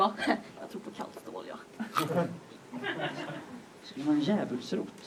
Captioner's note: audience laughs